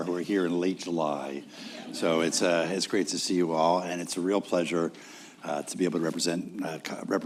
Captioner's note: laughter